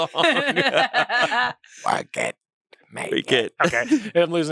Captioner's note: everyone laughs